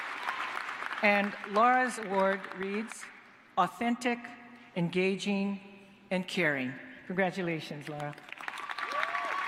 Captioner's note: cheers and applause